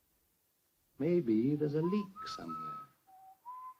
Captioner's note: Harry whistles